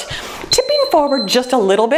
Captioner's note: timer beeps